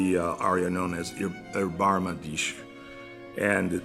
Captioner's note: german